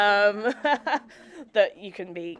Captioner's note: laughs; audience chuckling